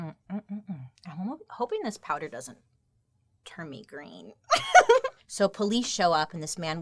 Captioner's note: laughs